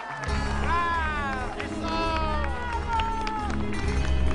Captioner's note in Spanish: Aplausos